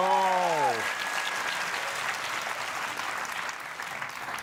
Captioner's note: applause